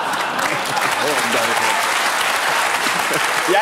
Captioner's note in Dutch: gelach, applaus